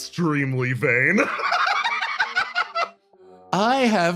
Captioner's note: laughs